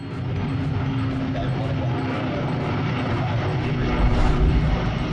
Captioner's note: Boeing 757-200 taking off